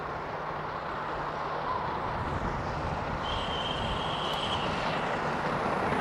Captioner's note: train passing